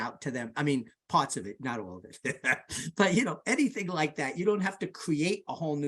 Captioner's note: laughs